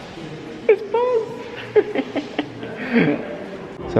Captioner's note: laughter